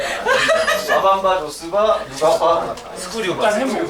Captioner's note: this time, giggling over an acrostic